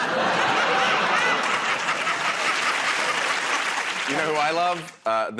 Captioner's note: laughter